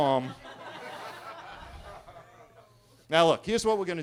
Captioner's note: attendees laughing